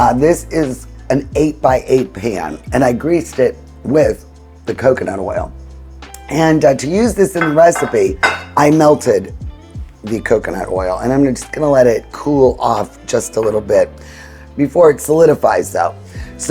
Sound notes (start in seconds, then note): 7.4 pan clinking